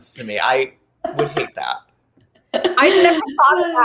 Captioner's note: laughing